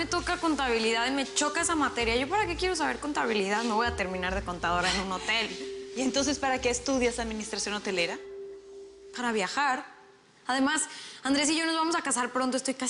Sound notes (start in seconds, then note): none